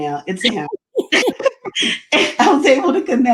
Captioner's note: laughs